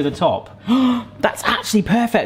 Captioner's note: person gasping